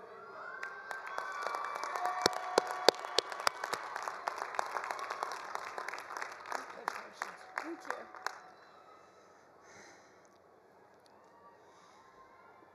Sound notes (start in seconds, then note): 0.1 attendees cheering; 0.5 attendees applauding